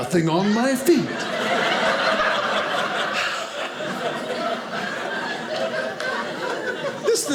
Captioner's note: audience laughing